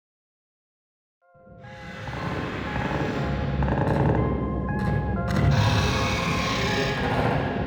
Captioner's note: eerie music; monsters shrieking